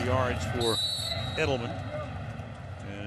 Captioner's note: whistle blows